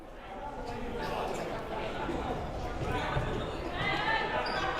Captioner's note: crowd murmuring